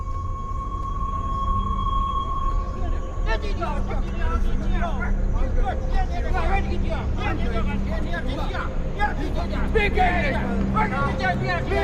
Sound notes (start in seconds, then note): 3.3 voices shouting